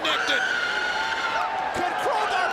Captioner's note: Daffney screams